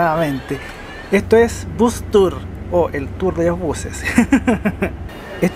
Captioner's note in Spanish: risas